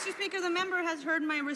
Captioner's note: some Applause